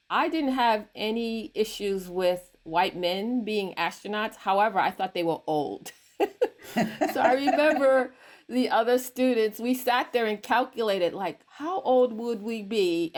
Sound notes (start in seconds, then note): 6.2 chuckles; 6.2 everyone chuckles